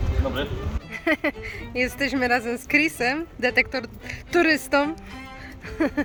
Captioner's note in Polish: śmiech